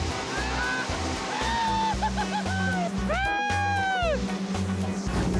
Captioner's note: laughing